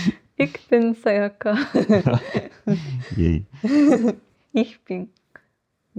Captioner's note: german